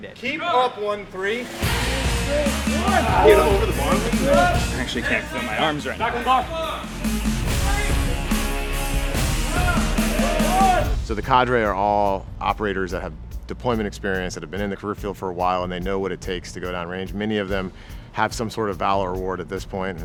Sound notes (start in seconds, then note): 6.5 cadres shouting; 6.5 candidates grunting